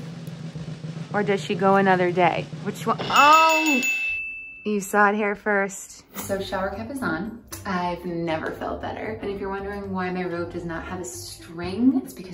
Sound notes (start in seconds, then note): 3.0 bell dings